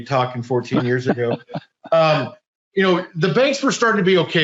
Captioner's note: laughing